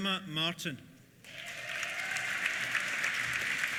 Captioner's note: applause; cheers